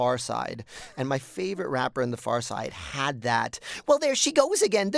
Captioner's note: rapping in high-pitched voice